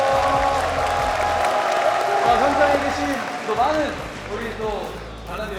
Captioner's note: the crowd welcomes them with loud cheers